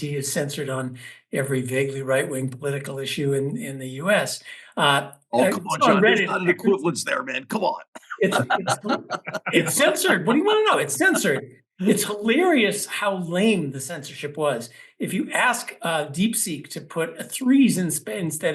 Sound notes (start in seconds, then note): 8.0 laugh